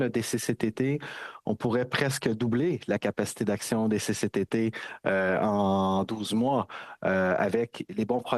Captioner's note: speaking French